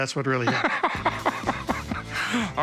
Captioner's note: laughter